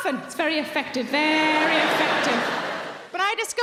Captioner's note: audience laughing